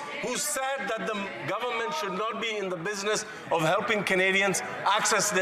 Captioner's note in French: voix de l'interprète